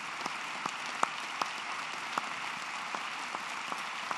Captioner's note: applause